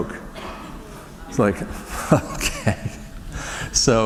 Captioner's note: chuckle